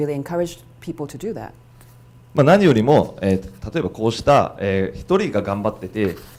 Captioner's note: speaking foreign language